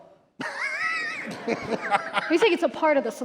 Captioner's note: laughter